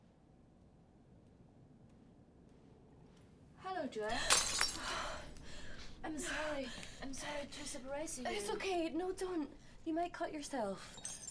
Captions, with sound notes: Hello, Joia. (Joia gasps) (glass shatters) I'm sorry. I'm sorry to surprise you. - It's okay. No, don't, you might cut yourself.